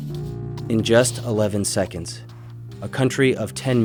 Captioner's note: voiceover